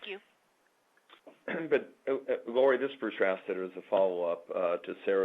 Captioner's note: clears throat